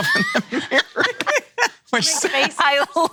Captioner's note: laughing